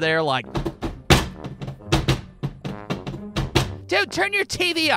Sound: spastic thudding or tap dancing?

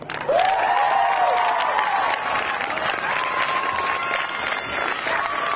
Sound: audience cheering and clapping

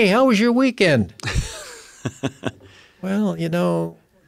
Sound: laugh

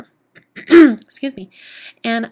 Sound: clears throat

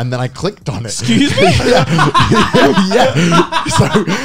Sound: laughing

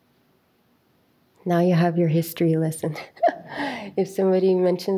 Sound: chuckles

